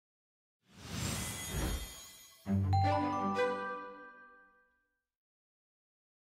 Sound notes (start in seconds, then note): 0.7 whooshing; 1.1 chiming tones